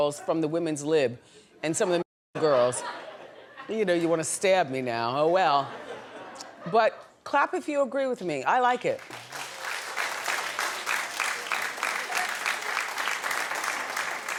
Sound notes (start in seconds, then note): 8.9 audience clapping